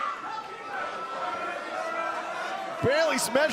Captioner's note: crowd cheering